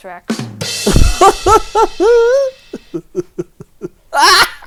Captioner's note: cymbal crashing; laughs